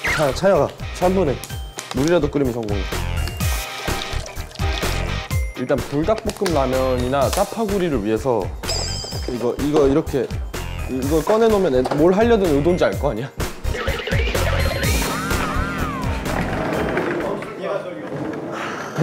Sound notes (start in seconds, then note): 3.2 pouring